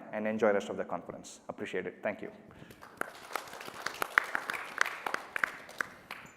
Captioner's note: applause